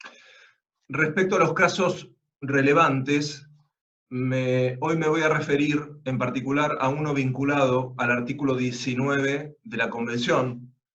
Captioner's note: Spanish